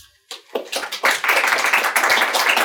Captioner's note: students applaud